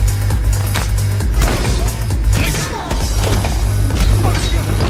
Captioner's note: hitting, punching